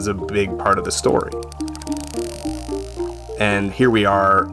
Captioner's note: gentle music; whale clicking